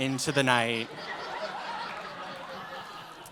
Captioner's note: laughter